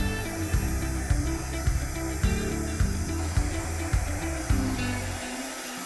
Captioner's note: light upbeat music; blow dryer blowing